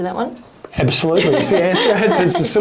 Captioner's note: chuckles